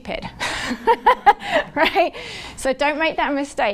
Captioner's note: laughs